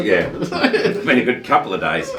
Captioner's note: laughing